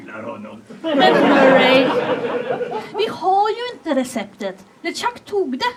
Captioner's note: audience laughs